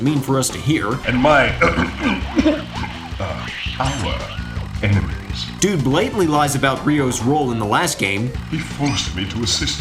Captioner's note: coughs